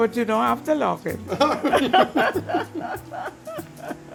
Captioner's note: laughs